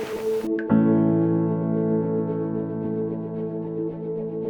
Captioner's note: sound of water drops